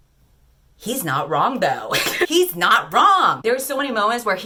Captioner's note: laughs